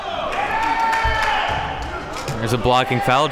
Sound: applauding and cheering

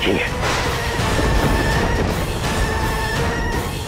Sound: thundering

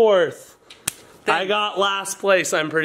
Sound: hands slap

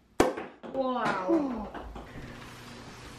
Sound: champagne pops

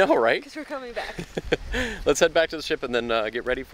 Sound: laughing

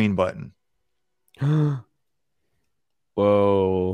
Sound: gasps

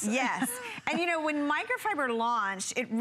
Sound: laughter

